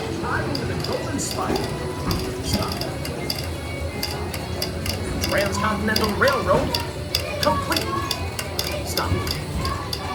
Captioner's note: telegraph Clicking